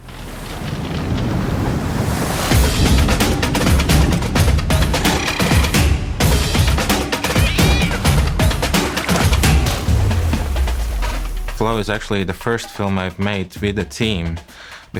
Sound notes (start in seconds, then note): 0.2 water rushing; 3.1 bird cawing; 3.1 jaunty music; 7.2 cat yowling; 10.4 water splashing